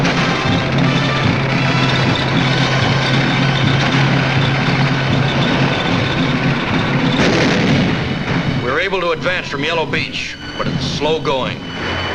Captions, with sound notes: (tanks rumbling) (guns booming) We're able to advance from Yellow Beach, but it's slow going.